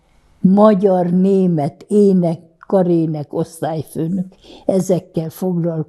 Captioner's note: counting